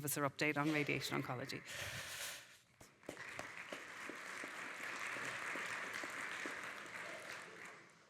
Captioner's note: audience applauding